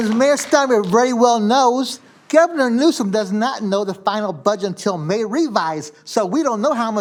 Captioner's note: applause